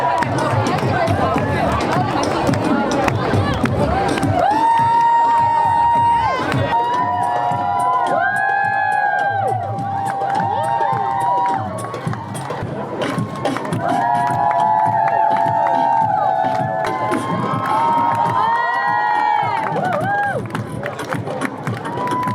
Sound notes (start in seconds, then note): 0.3 runway BeatBox continous; 14.8 crowds Cheering; 21.7 whooping